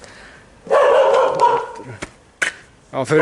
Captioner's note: dog barking